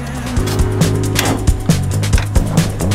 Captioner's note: bonnet opening cracked